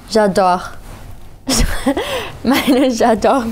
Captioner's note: laughs